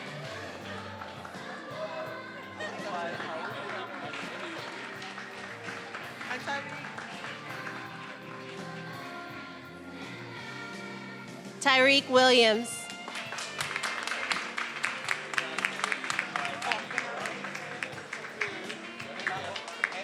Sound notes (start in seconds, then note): 12.8 attendees applauding